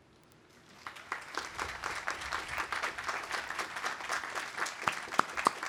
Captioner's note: audience applauding